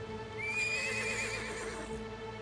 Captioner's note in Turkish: At kişneme sesi